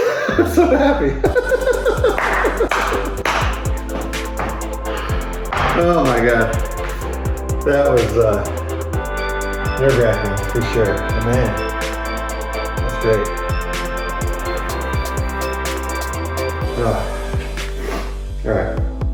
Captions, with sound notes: I'm so happy! [Laughter] Oh my God. That was, uh, nerve-wracking for sure. But man, that's great. Ah. All right.